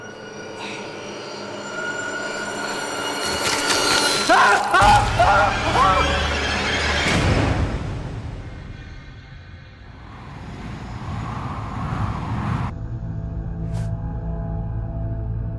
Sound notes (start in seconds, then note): 0.3 tense music; 4.3 Jed screaming